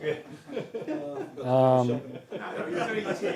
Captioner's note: laugh